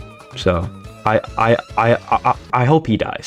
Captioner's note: stutter Moment